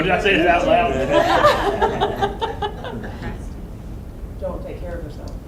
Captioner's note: laughs; voiceover; voiceover